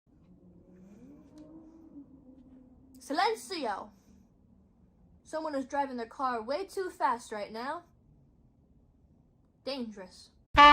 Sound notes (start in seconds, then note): 0.1 vrooooooooooom